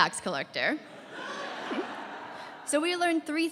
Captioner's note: laughter